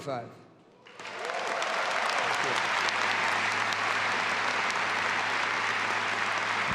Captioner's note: audience applauding and cheering